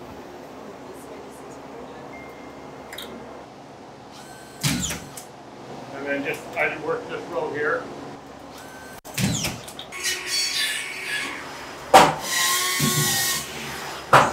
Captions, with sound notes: - Move this way just a tiny bit. (nail gun sounds) - And then just, I'd work this row here. (saw buzzing)